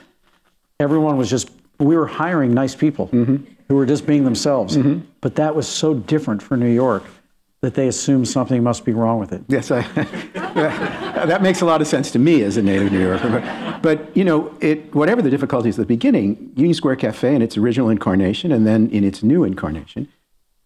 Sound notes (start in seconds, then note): 9.8 laughter; 9.8 laughing